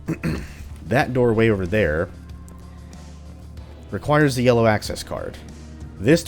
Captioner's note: clears throat